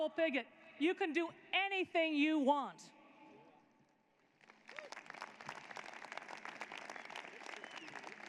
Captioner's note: applause